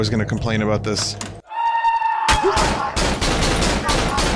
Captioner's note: echoing shriek